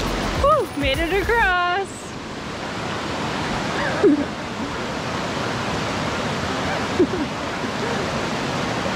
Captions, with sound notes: Whew, made it across. (water splashing)